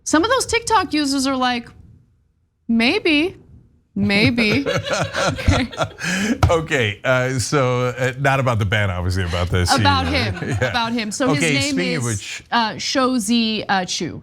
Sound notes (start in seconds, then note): 4.1 laugh